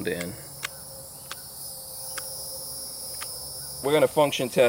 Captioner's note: clicking